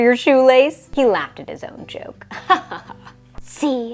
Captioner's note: laughs